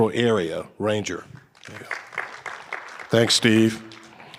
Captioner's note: audience applauding